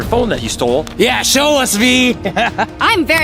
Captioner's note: chuckles